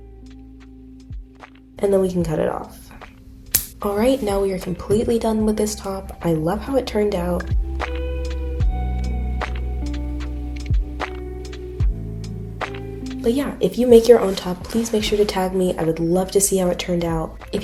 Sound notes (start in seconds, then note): 3.5 scissor cut sound